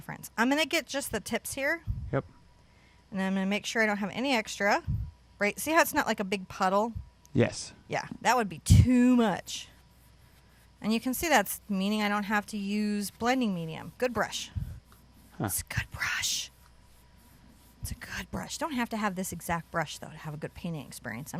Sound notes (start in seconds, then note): 15.9 whispers